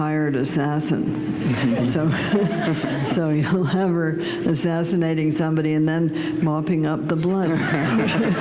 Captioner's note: laughter